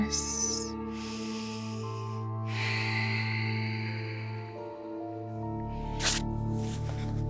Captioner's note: sighs; exhales; inhales; calm music